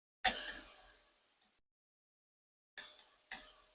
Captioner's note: cough